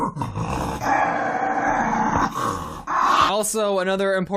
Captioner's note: Papi snarling